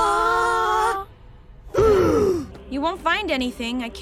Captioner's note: Coven Guard gasps